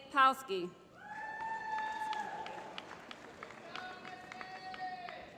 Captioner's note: applause